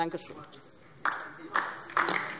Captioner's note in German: Beifall DIE LINKE